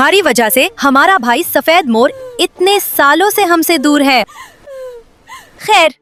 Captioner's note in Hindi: रोने की आवाज़